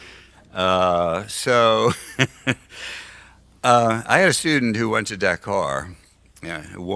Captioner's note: laughs